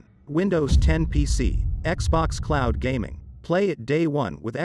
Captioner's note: dramatic sound